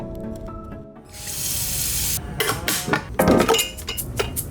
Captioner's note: water running